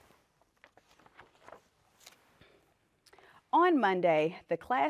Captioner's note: page turning